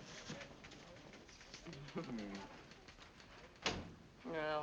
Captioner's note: Hildy chuckles